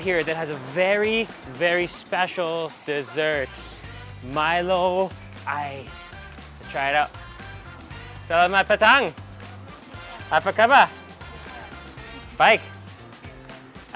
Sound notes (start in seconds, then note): 7.6 upbeat music; 8.4 speaking in foreign language